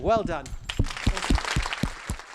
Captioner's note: applause